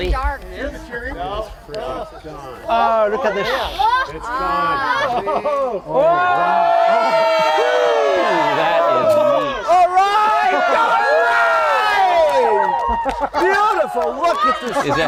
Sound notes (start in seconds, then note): 6.9 cheering; 10.9 cheering